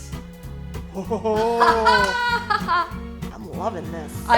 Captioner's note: laughing